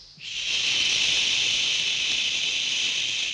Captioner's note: rattlesnake rattling